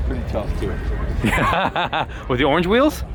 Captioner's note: laughing